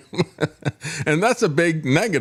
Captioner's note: laughs